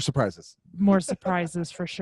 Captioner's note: laughs